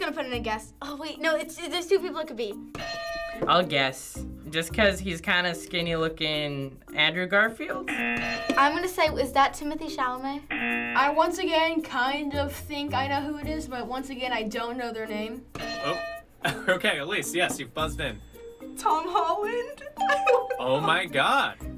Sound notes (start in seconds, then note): 2.6 bell rings; 7.8 buzzer; 7.8 bell rings; 10.5 buzzer; 15.6 bell rings; 16.4 chuckles; 20.0 ding; 20.1 laughs